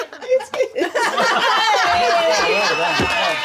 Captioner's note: laughing; cheering